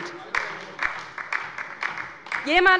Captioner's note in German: Beifall bei der LINKEN